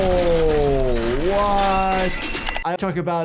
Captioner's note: debris thuds; glass clatters